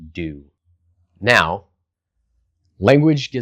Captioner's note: beat